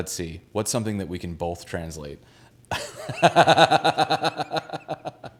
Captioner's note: laughs